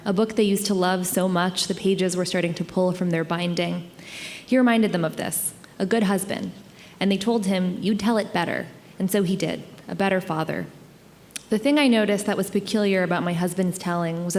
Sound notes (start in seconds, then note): none